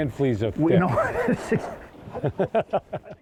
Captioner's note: everyone laughs